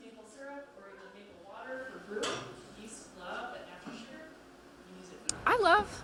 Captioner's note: background chatter